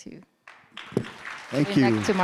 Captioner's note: audience applauding